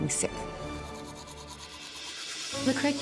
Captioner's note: brushing teeth